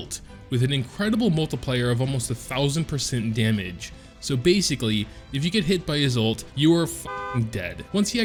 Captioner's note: car horn